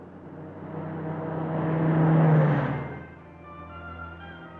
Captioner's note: car driving, radio on